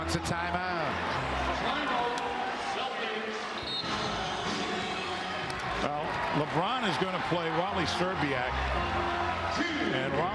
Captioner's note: whistle